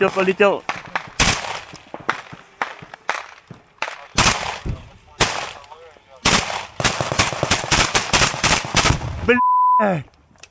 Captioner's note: sound of gunshots